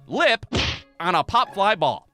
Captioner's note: thwack!